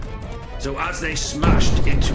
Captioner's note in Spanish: sonido explosivo